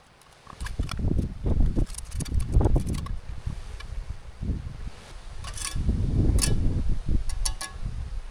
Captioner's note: wind blowing